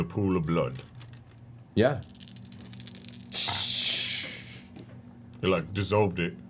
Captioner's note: sizzles